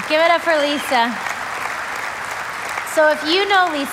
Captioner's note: audience applauding